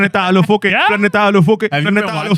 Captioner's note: speaking Spanish